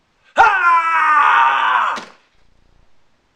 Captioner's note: scream